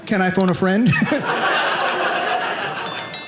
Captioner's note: audience laughing